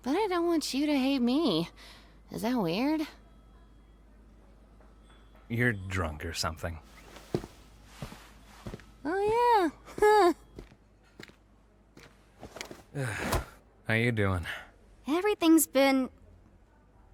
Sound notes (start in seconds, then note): 9.8 laughs dreamily; 12.9 sighs